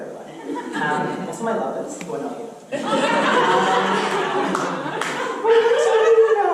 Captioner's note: audience laughter